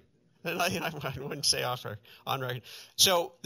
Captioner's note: stammers